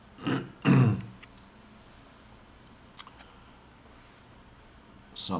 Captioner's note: Eckhart clears his throat